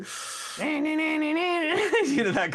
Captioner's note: imitates Droning